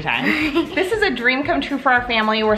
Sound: laughing

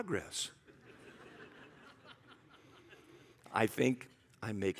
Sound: congregation laughs

